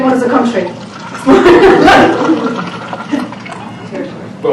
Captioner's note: laughing